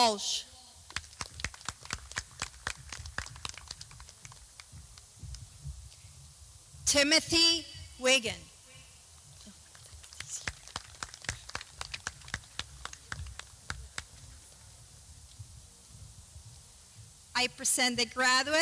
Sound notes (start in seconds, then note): 0.0 clapping; 6.3 clapping